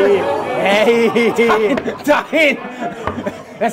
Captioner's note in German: Lachen